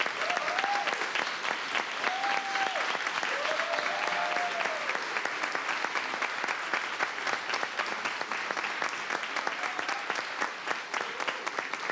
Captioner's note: cheers and applause